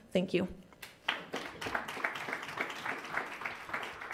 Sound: applause

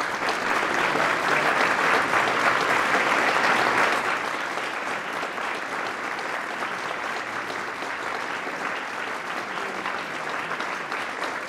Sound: applause Continues

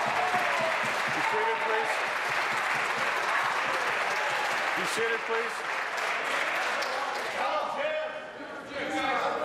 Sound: applause

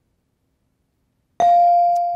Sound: bell rings

